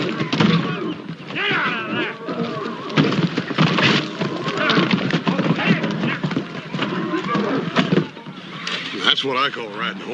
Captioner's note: indistinct shouting, goading